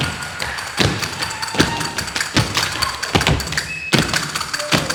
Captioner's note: tapping